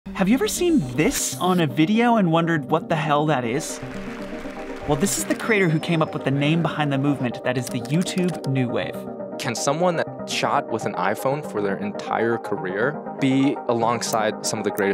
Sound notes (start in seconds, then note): 3.5 audience applauding; 8.6 keyboard clacking